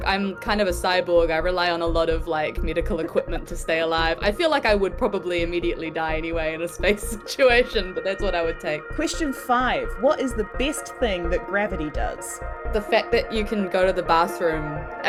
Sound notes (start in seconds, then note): 3.7 Ruby laughs; 7.5 chuckles